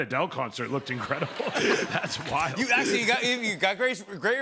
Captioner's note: laughter